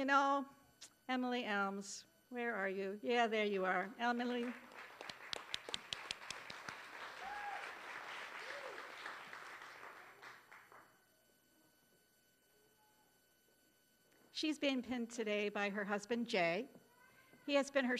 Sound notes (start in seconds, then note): 6.7 applause